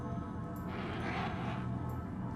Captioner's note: roars